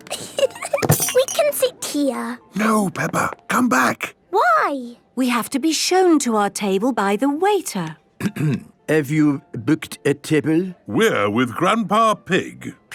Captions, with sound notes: We can sit here! - No, Peppa! Come back! - Why? - We have to be shown to our table by the waiter. - (clears throat) Have you booked a table? - We're with Grandpa Pig.